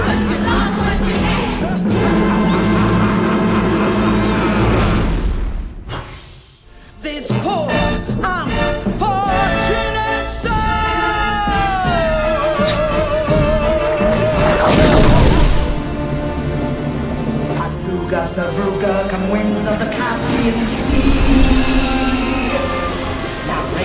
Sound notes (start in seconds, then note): 14.5 contract whooshing